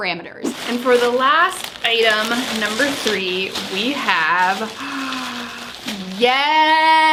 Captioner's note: gasps